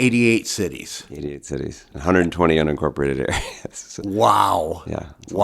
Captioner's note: chuckles